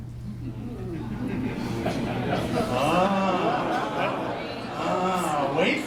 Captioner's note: audience "Ahhhhing"